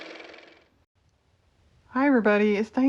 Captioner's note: car motor